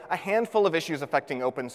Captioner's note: none